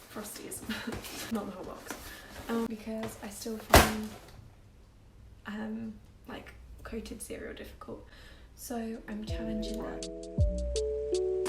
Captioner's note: box falls